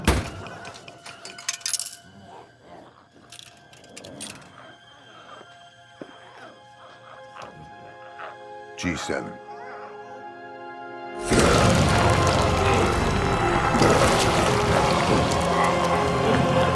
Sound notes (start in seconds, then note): 1.2 quarter rattles; 11.1 intense music